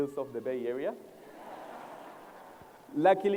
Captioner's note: laughter